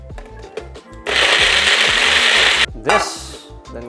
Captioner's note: blending sound